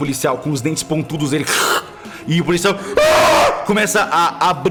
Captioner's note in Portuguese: grito de agonia